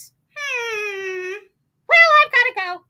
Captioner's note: whines